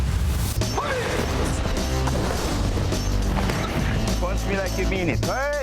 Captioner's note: intense hip hop music; instructor shouting